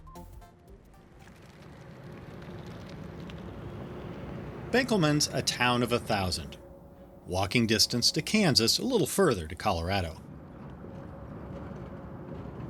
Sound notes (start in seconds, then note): 0.0 melodious instrumental music; 1.0 tires on pavement